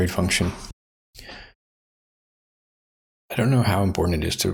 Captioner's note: blank Audio